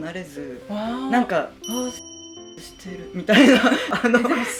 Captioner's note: laughs